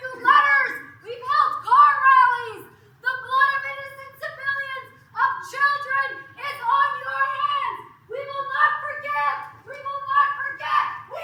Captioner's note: protest utterances